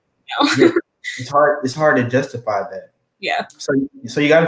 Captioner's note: laugh